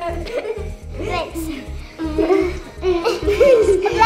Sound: laughing

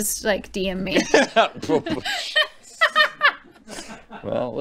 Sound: laughter

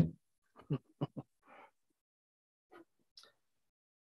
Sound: chuckles

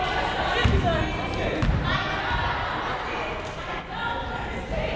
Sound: crowd conversing

